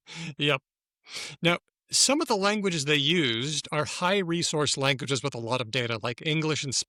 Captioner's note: laughs